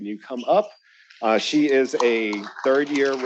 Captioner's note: attendees applauding